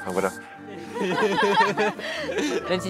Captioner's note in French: Rires